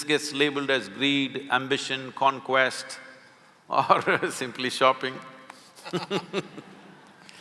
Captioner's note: both laugh